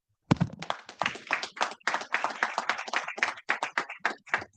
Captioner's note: audience clapping